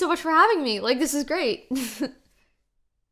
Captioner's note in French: chuckle